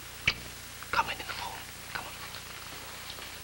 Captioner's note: he whispers